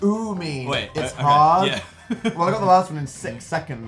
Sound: chuckles

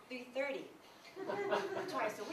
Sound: laughter

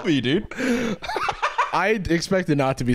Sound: cackles

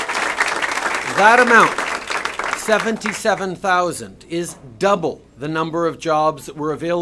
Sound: applause

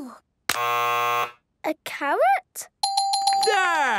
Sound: buzzes; dinging

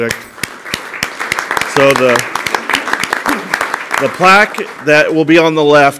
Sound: applause

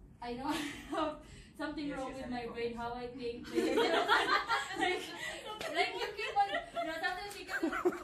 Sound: laughing

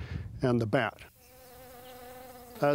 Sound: bees buzzing

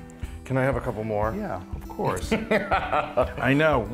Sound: laugh

